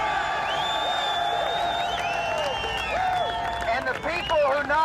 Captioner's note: crowd cheering